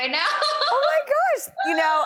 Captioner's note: laughs